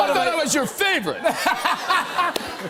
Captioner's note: laughter